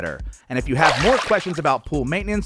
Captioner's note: splash